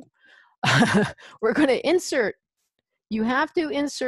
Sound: laughs

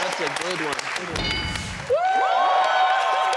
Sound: audience cheering; everyone applauding

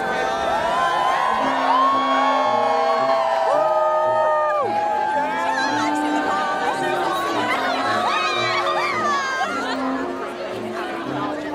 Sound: applause

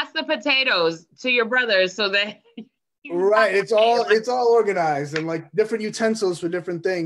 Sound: laughs

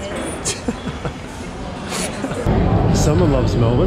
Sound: chuckles

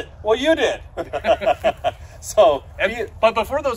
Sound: laughs

